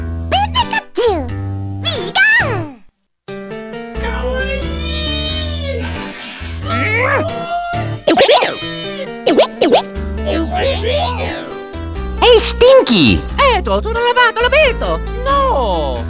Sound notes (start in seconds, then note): 7.8 grunt; 10.4 gibberish slowed down; 13.9 italian gibberish